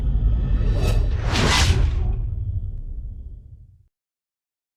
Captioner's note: logo whooshing